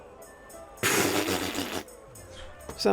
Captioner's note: pffffft